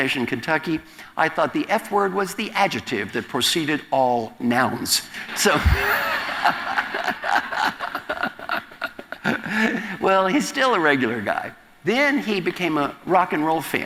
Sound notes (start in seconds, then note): 5.3 audience laughter; 5.4 laugh